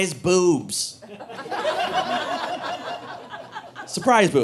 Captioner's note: audience laughing